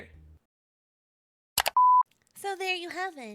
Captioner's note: screen cuts to black. The sound of a single mouse click. End video